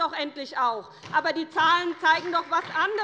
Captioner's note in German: Beifall bei der SPD